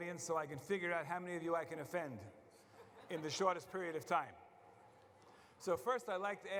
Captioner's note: laughter